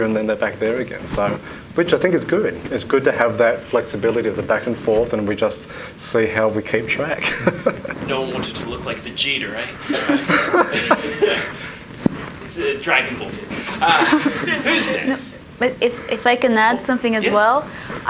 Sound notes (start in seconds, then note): 7.2 laughs